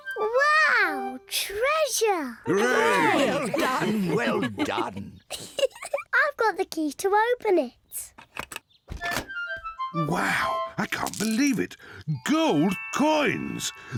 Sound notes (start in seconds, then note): 5.6 giggles